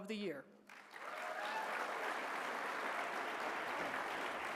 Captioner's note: applause